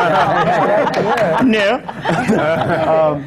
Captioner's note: laughter